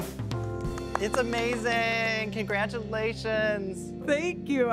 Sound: clapping

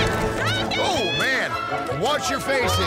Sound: teams cheering

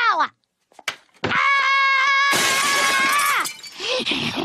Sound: screaming; panting and muttering

